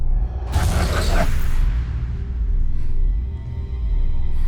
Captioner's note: breathing heavily; eerily whooshing